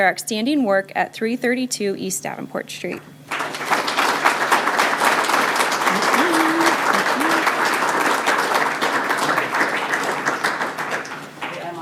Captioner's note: applause